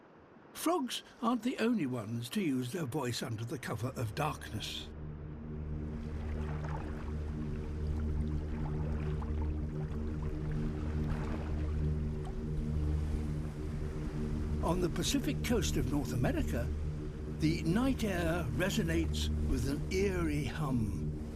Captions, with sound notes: Frogs aren't the only ones to use their voice under the cover of darkness. (RESONANT HUMMING) On the Pacific Coast of North America, the night air resonates with an eerie hum.